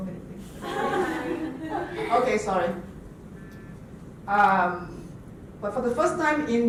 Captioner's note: laughter